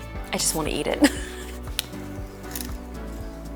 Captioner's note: laughs